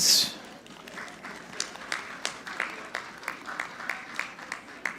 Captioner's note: audience clapping